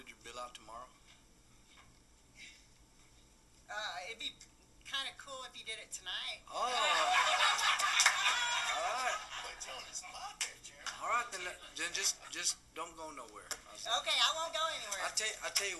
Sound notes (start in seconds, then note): 6.6 lots of laughter